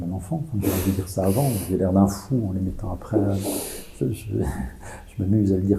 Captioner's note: laughs